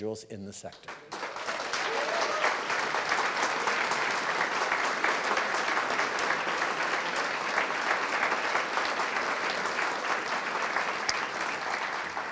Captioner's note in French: Applaudissements